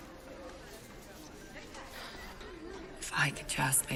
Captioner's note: sighing